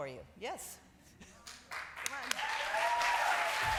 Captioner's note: applause